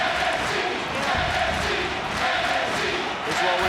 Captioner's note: crowd cheers and chants